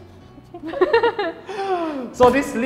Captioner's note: laughing